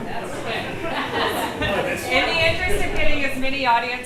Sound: audience chatters and laughs

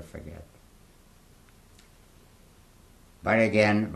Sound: pauses for 3 seconds

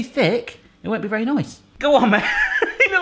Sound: chuckles

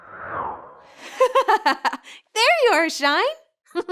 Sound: wind howls; girl giggles

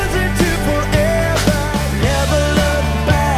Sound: party popper pops

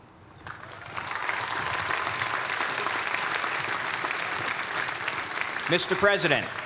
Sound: cheers and applause

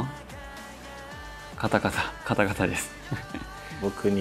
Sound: laughs

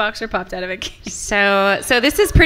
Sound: laughs

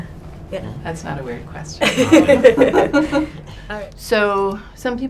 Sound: laughs

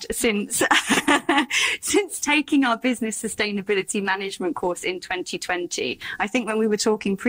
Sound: laugh

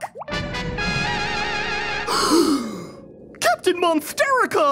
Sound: dramatic music; gasping

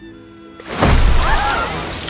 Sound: screams

